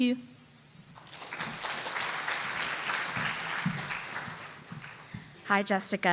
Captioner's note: applause